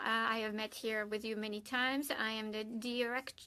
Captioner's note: speaking French